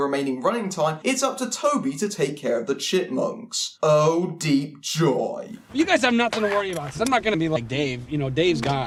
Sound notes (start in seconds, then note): 3.7 deeply sarcastic